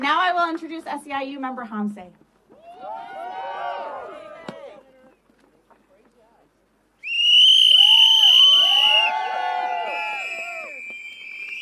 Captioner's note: cheering